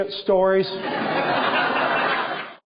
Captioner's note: laughter